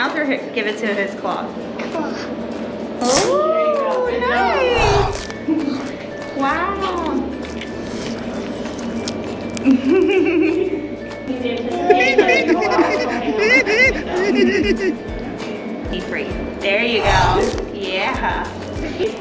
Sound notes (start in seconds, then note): 7.4 munching noises; 9.8 giggles; 11.8 tickling with laughter sound effect